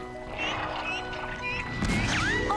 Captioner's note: chirping; gurgling